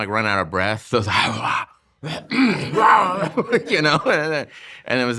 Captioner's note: grunting